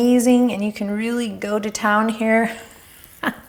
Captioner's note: laughs